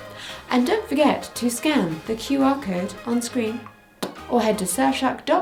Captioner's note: pops lips